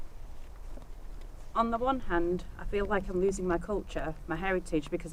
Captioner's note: background wind noise